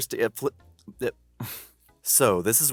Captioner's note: chuckle